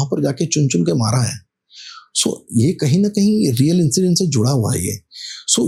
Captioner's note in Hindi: नाक से की जाने वाली आवाज़